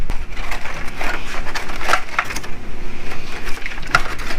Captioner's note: foil crinkling